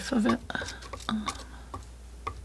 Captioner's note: scratching